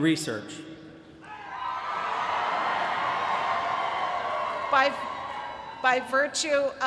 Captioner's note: cheering